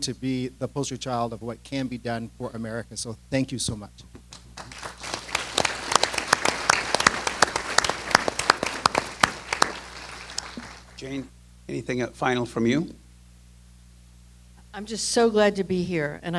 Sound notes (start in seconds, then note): 4.3 applause